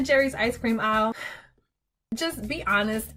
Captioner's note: guilty Sigh